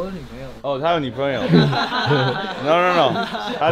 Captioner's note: Laughs